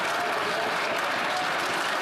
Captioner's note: laughter and applause